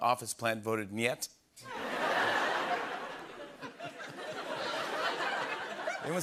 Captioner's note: laughter